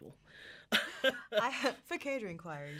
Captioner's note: laughing